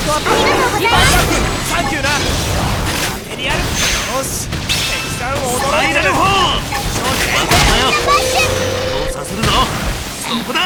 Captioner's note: battle chatter